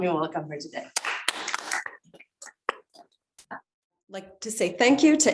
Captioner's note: crowd applauding